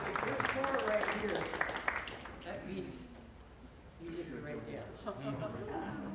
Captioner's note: applause